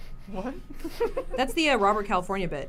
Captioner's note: giggles